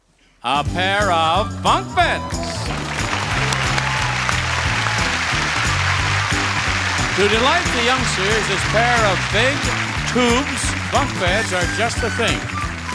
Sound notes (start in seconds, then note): 2.5 audience applauding; 2.5 upbeat music